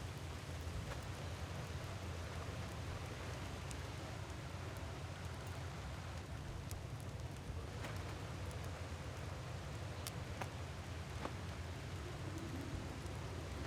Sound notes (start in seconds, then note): none